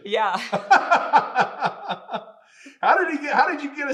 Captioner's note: both laughing